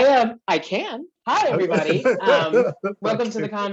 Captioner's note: laughing